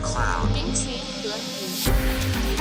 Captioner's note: woman speaks foreign language; different woman speaks foreign language